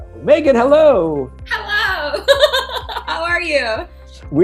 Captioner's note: laughs